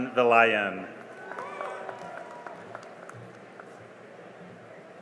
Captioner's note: cheering and applause